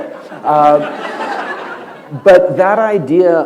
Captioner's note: laughter